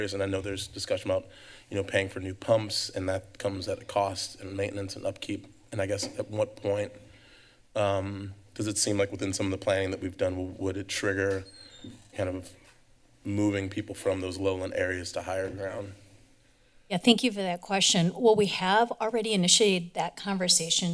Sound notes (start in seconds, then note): 11.2 door opens